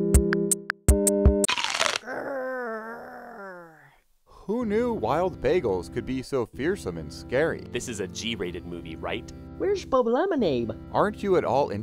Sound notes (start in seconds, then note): 1.4 crunching